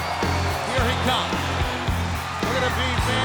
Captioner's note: crowd cheering